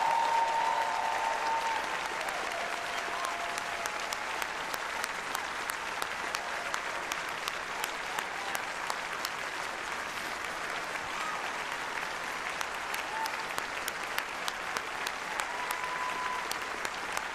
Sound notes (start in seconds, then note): 5.6 applause